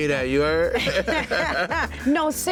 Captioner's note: laughter